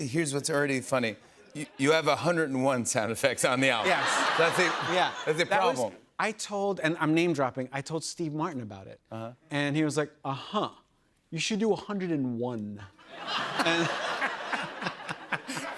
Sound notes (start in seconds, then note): 3.8 laughter; 9.6 imitating steve martin; 13.0 laughter